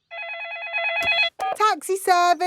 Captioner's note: phone ringing; dialing